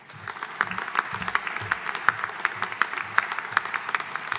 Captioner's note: audience applauding